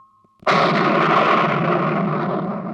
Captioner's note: thunder rumbling